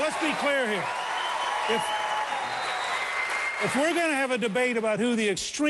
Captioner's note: cheering and applause